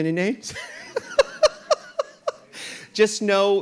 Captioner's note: RuPaul laughs